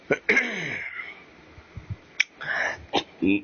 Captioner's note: coughs; clears throat